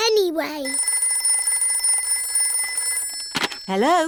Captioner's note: phone rings